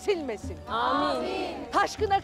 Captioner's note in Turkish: Hep bir ağızdan